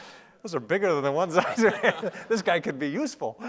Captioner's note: laughing